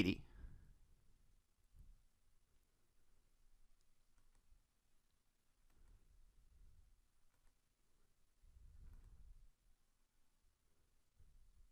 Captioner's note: silence